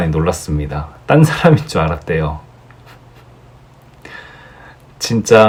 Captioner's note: he laughed so hard ㅠㅠㅋㅋㅋ